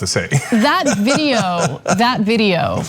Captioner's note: laugh